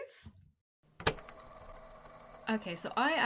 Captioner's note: tape recorder clicking on